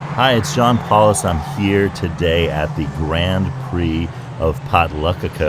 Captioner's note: formula one car race sounds